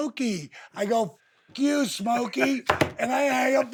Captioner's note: Steve laughs